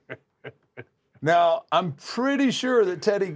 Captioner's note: laugh